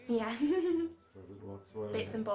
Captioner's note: laughing